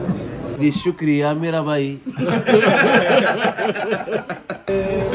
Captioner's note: laughs